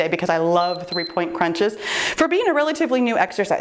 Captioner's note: timer beeps